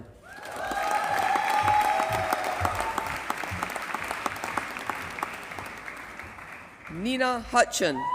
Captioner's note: applause